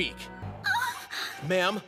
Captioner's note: gasp